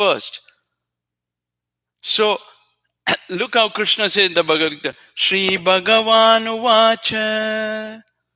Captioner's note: God speaks